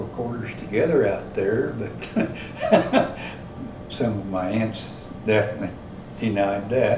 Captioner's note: laughs